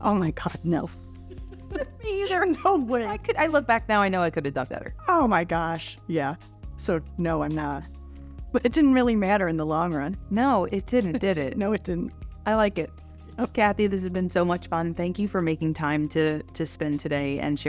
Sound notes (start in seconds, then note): 1.1 both laugh